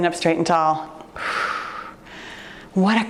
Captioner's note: exhales deeply